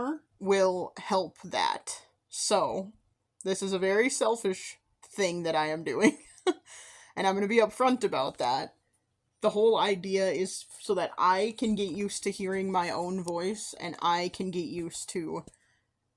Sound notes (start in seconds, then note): 6.2 chuckle